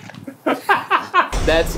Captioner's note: laughing